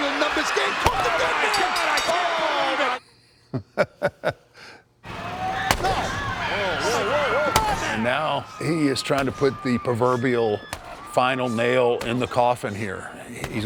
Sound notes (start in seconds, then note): 3.4 laugh